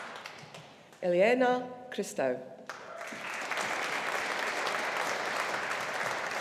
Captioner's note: audience applauding